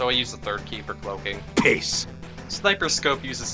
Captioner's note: Austrailian Sniper TF2 noises even though Sniper TF2 is not actually Austrailian